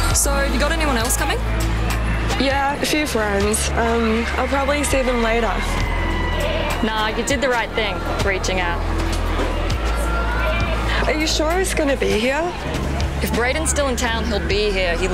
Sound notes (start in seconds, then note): none